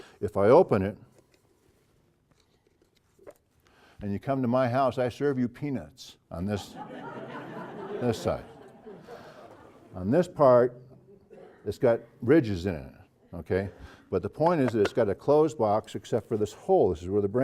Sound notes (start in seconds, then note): 6.6 laugh